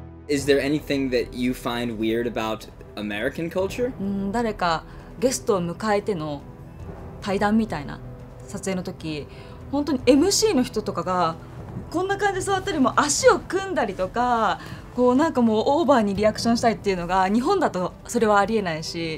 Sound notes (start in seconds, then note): 4.0 speaking Japanese